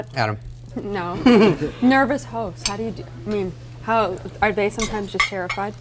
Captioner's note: laughs